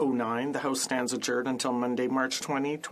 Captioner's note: speaking French